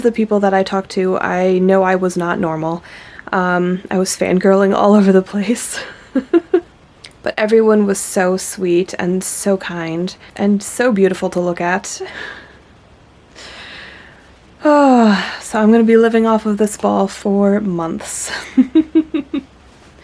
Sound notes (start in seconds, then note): 5.9 laughs; 14.5 final happy sigh; 18.4 laughs